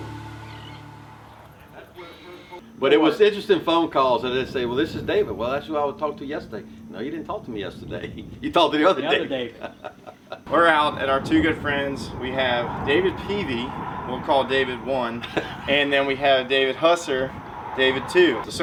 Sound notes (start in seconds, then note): 0.0 bird sounds